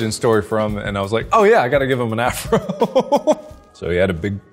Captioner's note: laughs